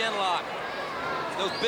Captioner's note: crowd chatter